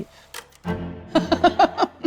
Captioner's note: gentle music; film clicks; laughs